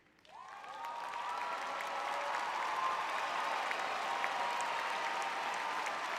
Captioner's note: cheering